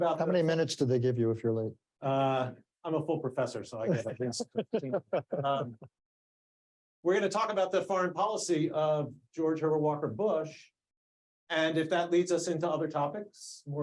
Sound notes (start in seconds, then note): 3.8 laughing